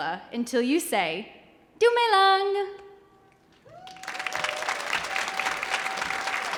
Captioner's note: audience applauding